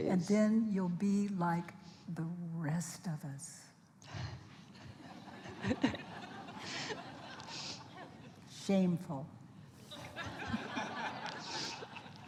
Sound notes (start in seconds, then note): 5.0 laughter from the audience; 9.8 laughter from the audience